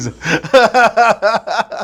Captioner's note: laughing